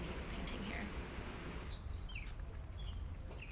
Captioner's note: birdsong